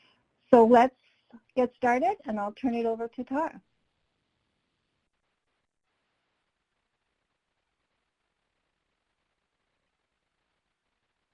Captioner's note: silence